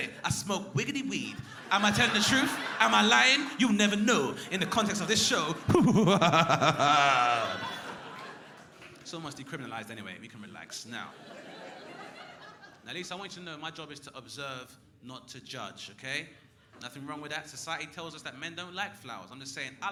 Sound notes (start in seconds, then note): 5.4 mysterious laughing